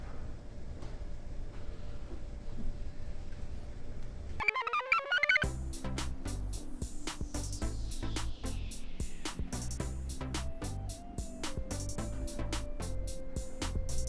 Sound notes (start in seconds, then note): 4.4 computer chirps; 5.5 blissful music